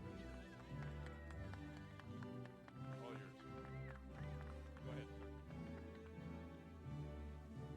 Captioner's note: applause